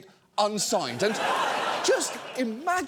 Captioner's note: studio audience laughs